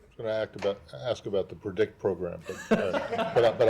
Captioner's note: laughter